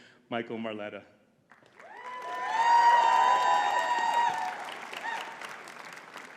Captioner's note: audience cheering and clapping